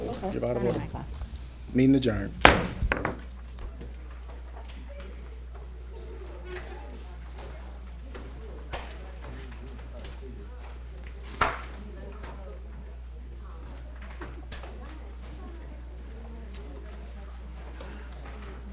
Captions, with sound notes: You're out of order. Meeting adjourned. (gavel banging) (audience chattering)